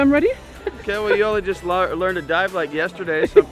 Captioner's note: laughing